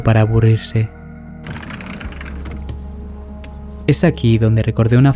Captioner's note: door and steps